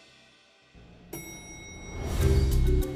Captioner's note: bell chimes